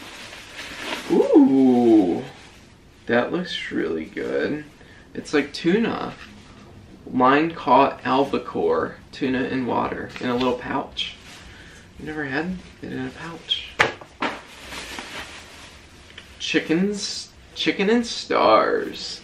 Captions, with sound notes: Oh! That looks really good. It's like tuna. Line caught albacore tuna and water in a little pouch. Never had it in a pouch. [plastic crinkling] Chicken, chicken and stars.